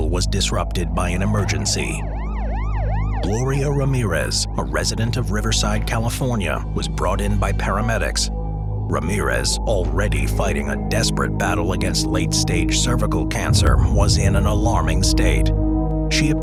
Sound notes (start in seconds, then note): 1.2 siren blaring